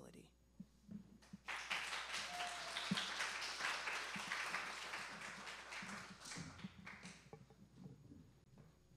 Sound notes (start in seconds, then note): 5.8 applause